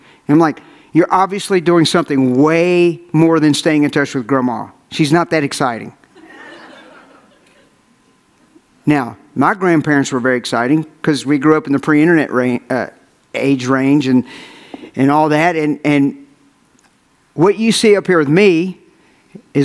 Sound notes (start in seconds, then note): 6.2 audience laughs